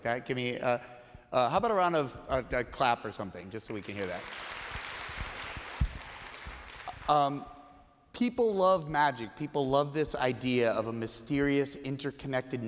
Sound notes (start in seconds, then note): 3.6 applause